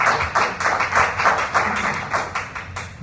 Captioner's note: applause